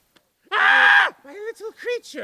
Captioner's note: screams